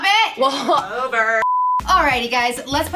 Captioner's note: beep